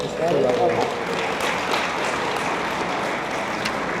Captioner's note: attendees applaud